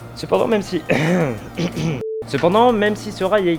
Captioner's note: clears throat in spanish